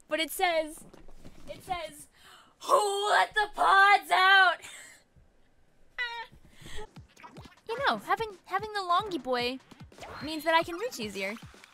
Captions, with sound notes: but it says, it says, "Who let the pods out?" (wheezes) You know, having the "longy boye" means that I can reach easier.